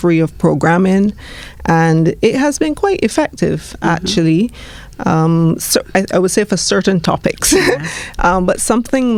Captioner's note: laughs